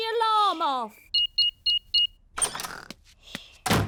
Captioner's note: beeping